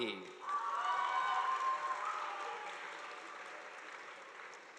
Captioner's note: audience applauding